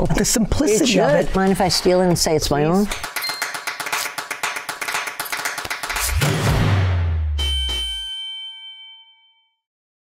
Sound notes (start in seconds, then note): 3.0 upbeat music; 7.3 bell dings